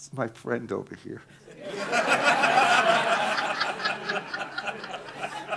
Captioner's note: audience laughing